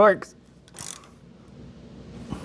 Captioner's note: metal Clanking